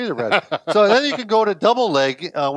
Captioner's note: laughs